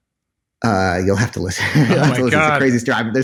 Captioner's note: laughs